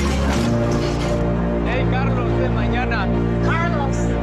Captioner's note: people speaking in Spanish